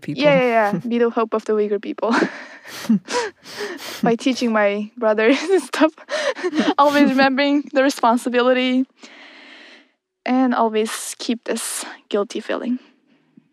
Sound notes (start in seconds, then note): 2.1 both laugh; 6.1 both laugh harder